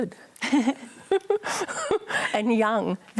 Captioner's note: laughter